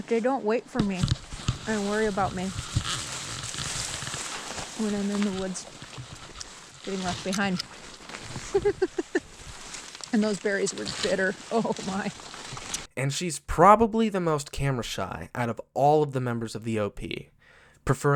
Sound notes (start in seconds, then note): 3.2 bush rustling; 8.4 laughs